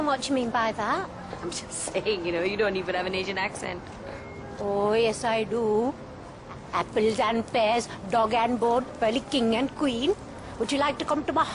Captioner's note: strong asian accent